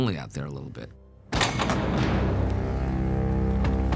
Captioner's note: door clangs